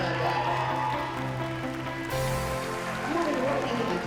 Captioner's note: cheers and applause